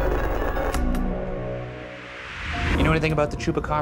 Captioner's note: electronic buzzing flickering; suspenseful music ending; static hissing